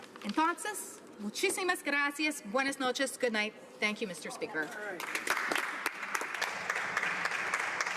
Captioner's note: speaking spanish